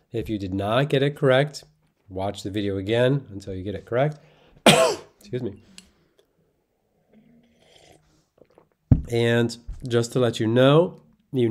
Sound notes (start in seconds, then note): 4.6 coughs